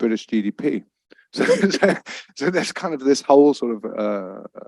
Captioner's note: laughs